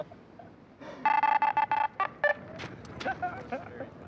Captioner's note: both laughing; megaphone beeping